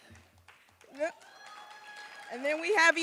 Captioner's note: applause